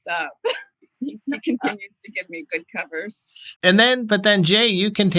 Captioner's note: laughter